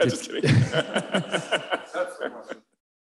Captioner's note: laughter